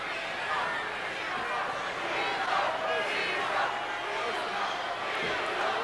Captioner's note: audience cheering